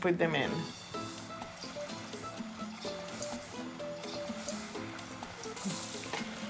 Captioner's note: soft Latin music; oil sizzling